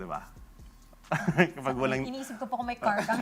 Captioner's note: laughs